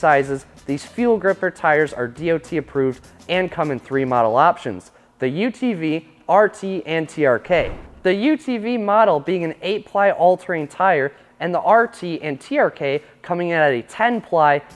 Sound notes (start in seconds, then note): 7.4 air whooshing